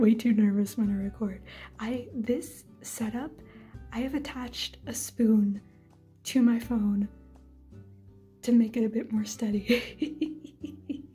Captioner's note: chuckle